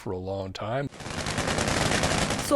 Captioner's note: gunshots